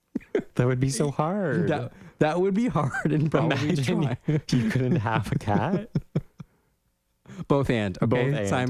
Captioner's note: laugh